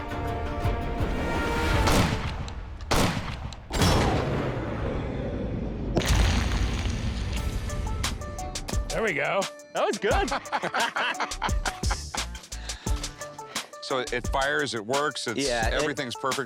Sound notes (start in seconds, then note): 10.1 laughter